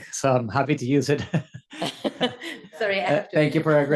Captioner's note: laugh